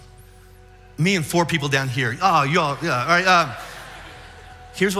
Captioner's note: audience laughs